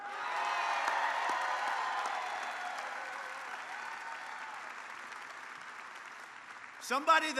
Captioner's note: applause